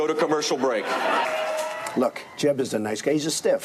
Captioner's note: crowd laughing